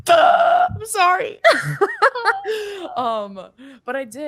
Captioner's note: laughs